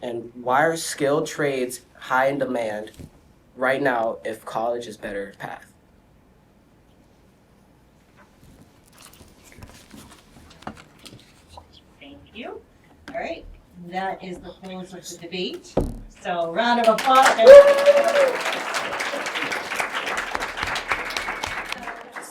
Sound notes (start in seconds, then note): 9.0 students whisper; 18.3 audience cheers and claps